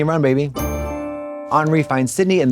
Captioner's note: bright chime